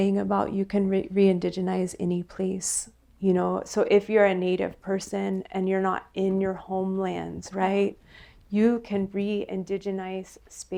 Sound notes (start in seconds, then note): none